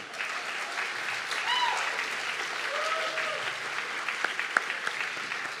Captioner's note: audience clapping and cheering